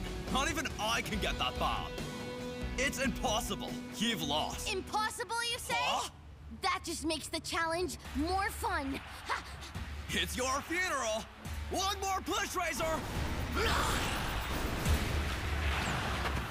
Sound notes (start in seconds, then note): 9.2 panting; 13.1 growling; 14.7 tense music